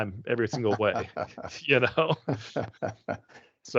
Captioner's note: laughing